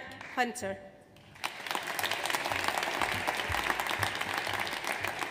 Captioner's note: audience applauds